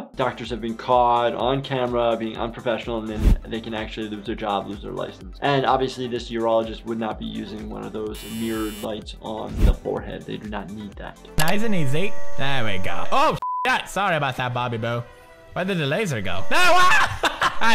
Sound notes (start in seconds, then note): 13.4 beep